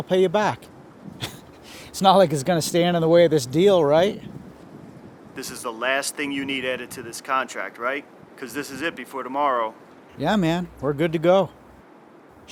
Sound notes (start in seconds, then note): 1.2 laughs